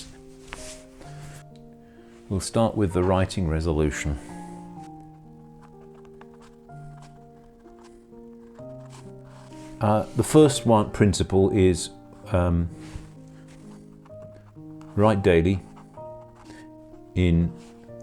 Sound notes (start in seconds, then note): 5.5 and the sound of writing